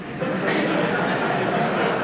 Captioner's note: laughter